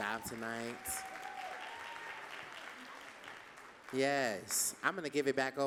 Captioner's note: audience cheering and clapping